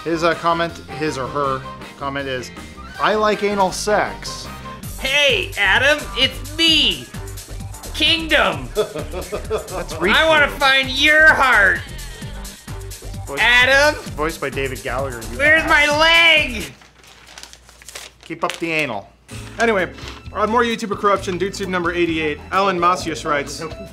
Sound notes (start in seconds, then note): 5.4 obnoxious voice; 8.7 laughter